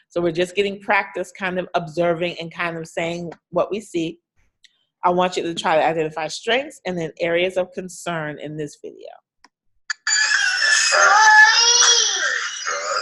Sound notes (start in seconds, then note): 10.0 toy whirling